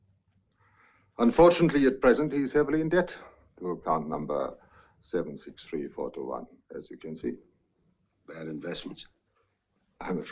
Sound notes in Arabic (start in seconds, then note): none